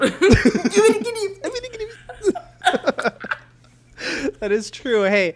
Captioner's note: both say gibberish then laugh; both laugh